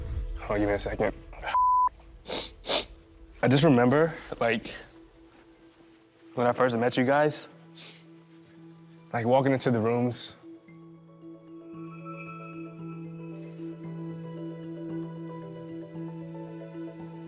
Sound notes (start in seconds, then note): 2.2 sniffles